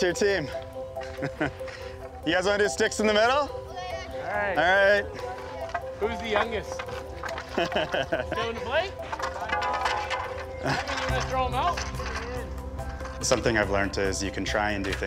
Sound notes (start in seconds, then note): 7.4 laughter